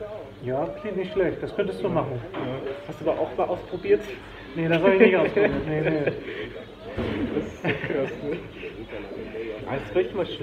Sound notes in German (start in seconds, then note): 7.1 Er lacht; 7.2 lacht